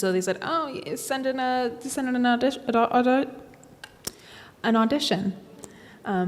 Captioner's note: stammering